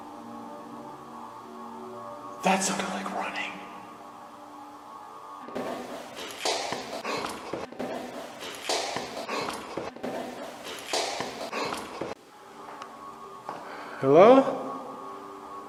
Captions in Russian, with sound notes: "Это что-то вроде бега" (увеличенная громкость, будто бежит ребенок) "Привет"